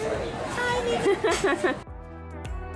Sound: laughing; upbeat music

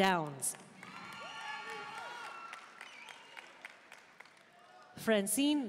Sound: audience cheering and applauding

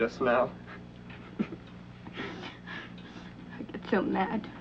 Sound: Peter chuckles

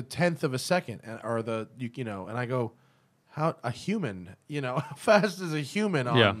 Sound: laughter

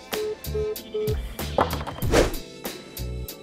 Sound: beeping; whoosh; upbeat urban music

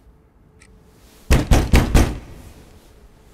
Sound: door banging

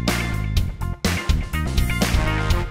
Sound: none

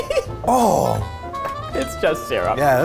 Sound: laughing; grunts

